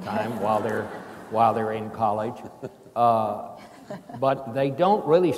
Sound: chuckling

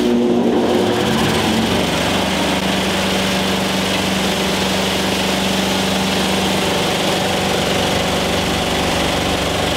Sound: Loud bean machine noises

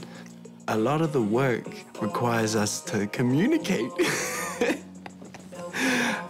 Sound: laughs

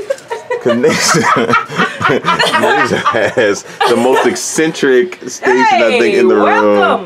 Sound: laughing

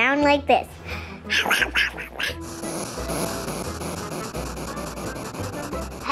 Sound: imitating hedgehog sounds

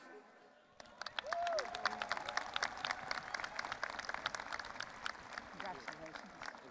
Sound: audience applauding and cheering

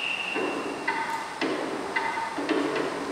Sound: none

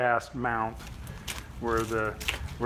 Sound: footsteps shuffling

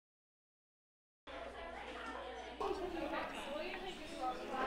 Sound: students talking

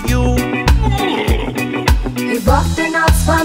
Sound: spewing up

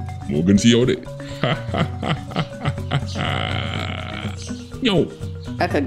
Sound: laugh

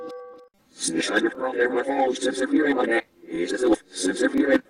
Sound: PC voices talking backwards

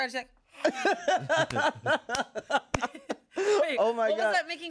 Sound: everyone laughs

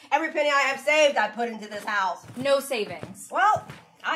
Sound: none

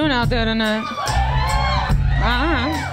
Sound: more cheers

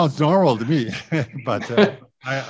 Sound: laughing

